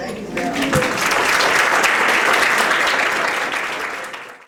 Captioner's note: applause